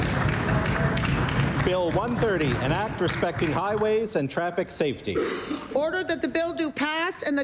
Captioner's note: applause